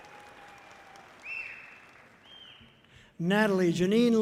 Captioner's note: audience cheering loudly; person whistles loudly